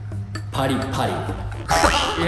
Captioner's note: japanese onomatopoeia/sound for crunchy